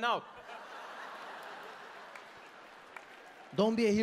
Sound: audience laughing

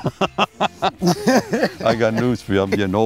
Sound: laughs

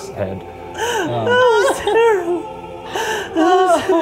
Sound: laughing

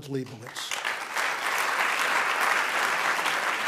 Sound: applauding

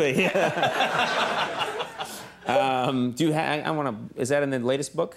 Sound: everyone laughs

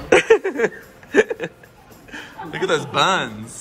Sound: laughing

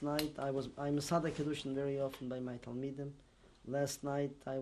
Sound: non-english

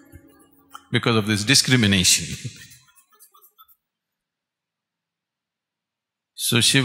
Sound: laughs

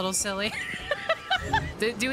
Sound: laughter

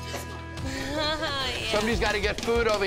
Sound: laughs

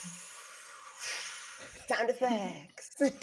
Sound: person breathing

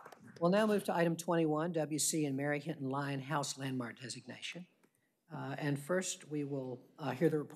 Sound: applause

